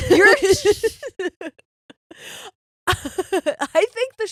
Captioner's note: laughing